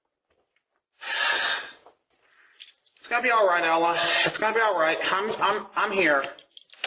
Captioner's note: sighs